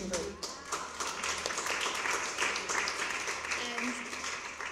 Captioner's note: applause